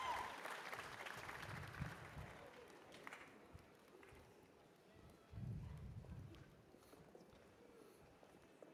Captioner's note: cheers and applause